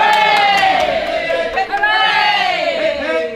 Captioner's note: cheering